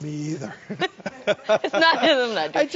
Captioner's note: both laugh